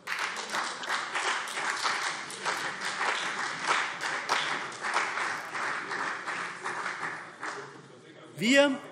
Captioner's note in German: Beifall CDU und vereinzelt BÜNDNIS 90/DIE GRÜNEN